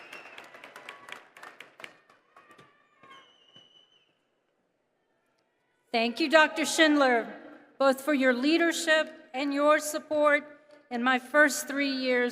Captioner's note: applause